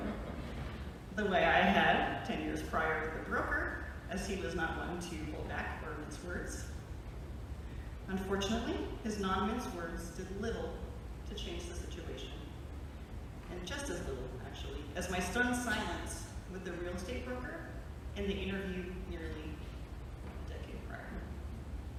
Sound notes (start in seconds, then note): 0.0 light laughter